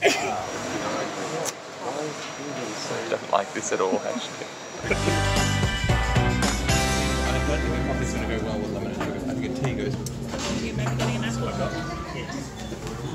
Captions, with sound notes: - I don't like this at all Ashley. (theme music) (patrons chatter)